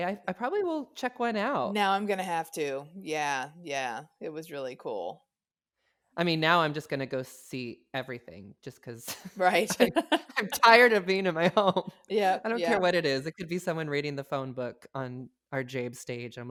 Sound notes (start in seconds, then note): 5.8 laughs